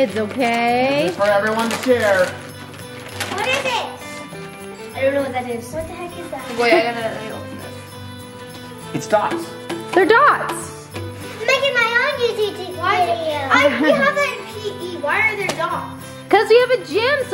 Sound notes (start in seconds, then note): 2.4 happy holiday music; 3.4 paper rustling; 8.5 happy holiday music continues